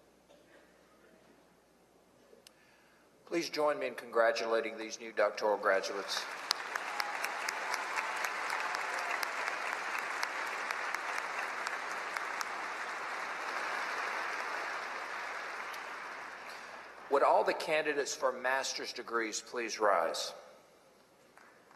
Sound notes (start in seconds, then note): 5.8 applause; 21.3 applause